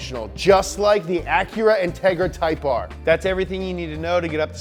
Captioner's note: none